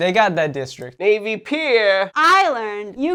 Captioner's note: chicago accent